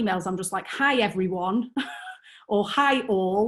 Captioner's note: chuckles